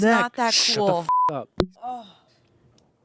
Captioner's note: beep